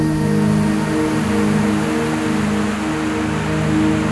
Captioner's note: river burbling